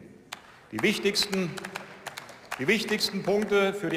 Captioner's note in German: Beifall